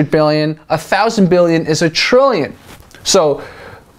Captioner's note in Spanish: en inglés, no español